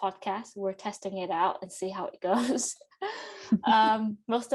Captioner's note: giggles; laughs